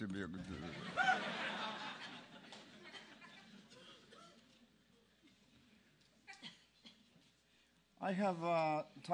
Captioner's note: laugh